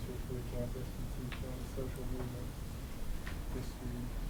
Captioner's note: voice muffled